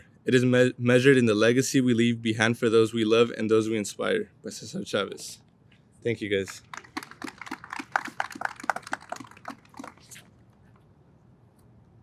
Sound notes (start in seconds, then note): 6.4 audience applauds